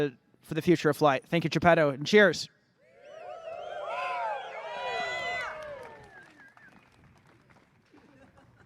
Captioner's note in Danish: Bifald